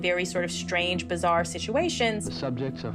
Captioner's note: soundbite of archived recording